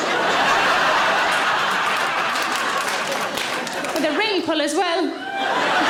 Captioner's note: audience laughing